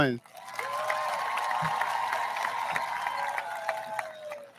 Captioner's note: audience applauds